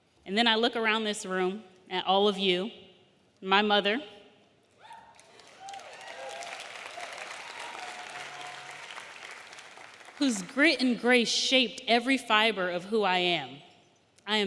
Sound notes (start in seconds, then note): 4.9 audience cheering; 5.1 audience applauding